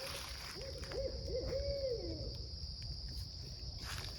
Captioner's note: owls hooting